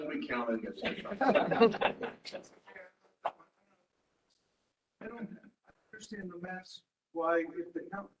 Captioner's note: laugh